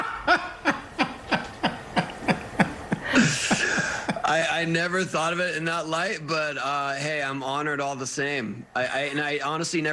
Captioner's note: laughter